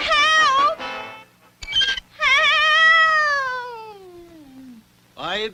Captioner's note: Underdog turns off the Record Player & the record player stops